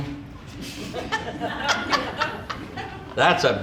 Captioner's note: audience laughing